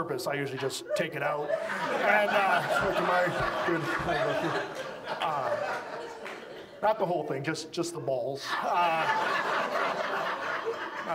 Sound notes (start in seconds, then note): 1.2 audience laughs; 8.4 audience laughs